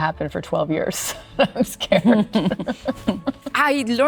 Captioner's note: Penelope laughing; laughing